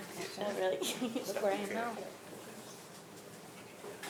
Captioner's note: speaks faintly